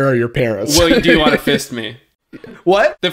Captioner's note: laughs